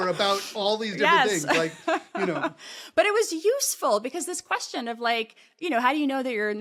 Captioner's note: laugh